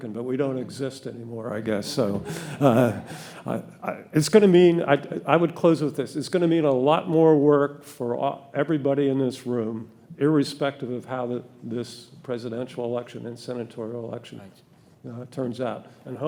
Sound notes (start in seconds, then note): 1.9 audience laughing